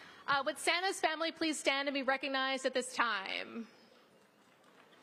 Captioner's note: applause